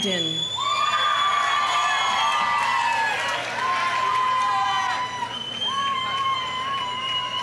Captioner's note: audience cheering; audience applauding